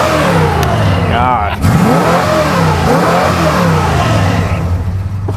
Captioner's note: car revs